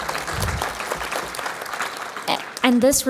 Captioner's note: applause